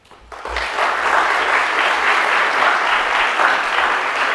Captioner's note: audience applauding